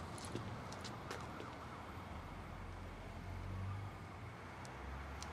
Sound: police siren going

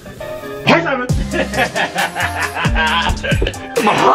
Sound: laughing

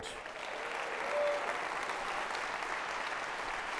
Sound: audience clapping

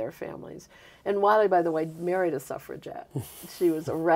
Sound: chuckling

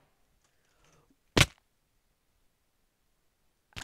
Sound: gasp

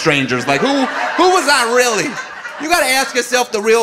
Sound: audience laughing

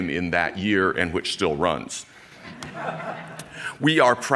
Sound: audience laughing

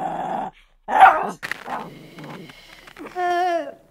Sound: dog growls and barks

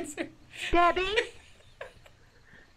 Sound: laughing; laughs

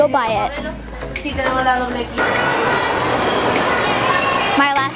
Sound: foreign language

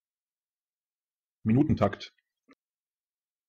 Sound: fast Pronunciation

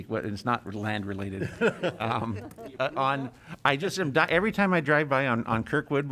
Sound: laughter

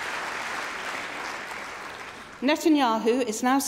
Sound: applause

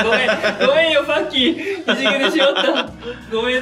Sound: laughs

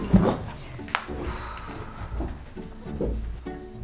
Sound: sigh

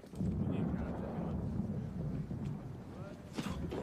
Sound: distant explosions

